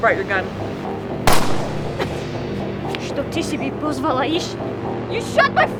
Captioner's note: gunshot booms; Lada speaks Russian